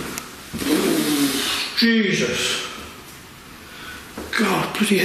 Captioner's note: loud banging; blows raspberry